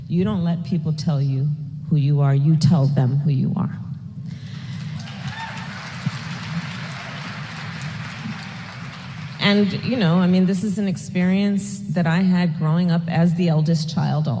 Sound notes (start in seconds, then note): 4.3 applause